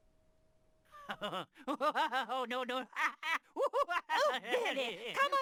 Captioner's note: train guard laughing whilst being tickled